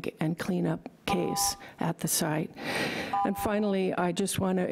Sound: timer buzzing

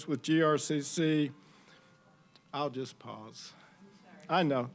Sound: "bells tolling" ringtone

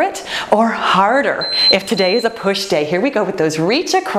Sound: timer beeps

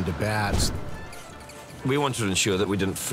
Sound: bats squeaking

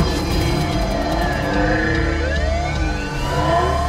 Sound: sirens Wailing

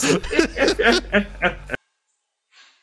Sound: laughing

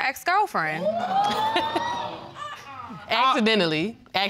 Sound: audience exclaiming

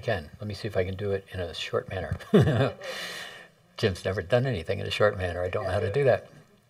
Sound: laughter

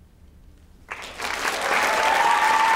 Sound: applause

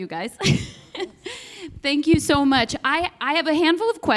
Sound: giggles

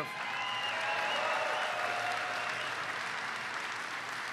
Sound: applause

